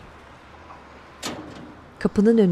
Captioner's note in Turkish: Kapı sesi